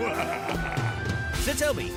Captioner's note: laughs nastily